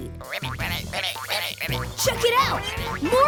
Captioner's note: croaking